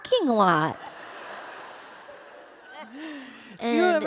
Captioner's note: laughter